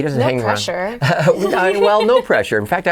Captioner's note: laughing